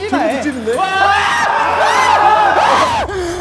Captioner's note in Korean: 모두의 괴성